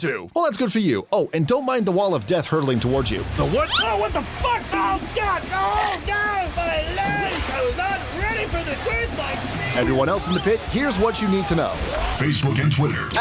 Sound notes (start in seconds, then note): 4.7 fun moshpit noises